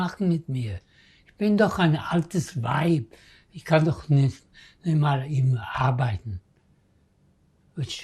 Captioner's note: german